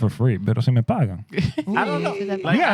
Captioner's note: speaking Spanish